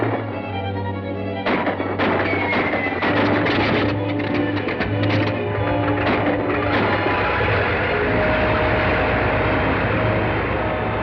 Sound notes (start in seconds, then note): 6.2 plane whirring